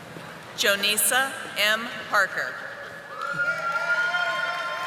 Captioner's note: audience applauding